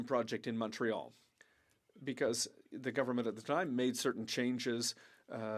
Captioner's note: speaking French